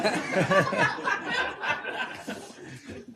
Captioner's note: laughter